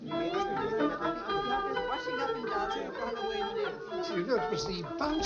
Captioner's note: upbeat music; people chattering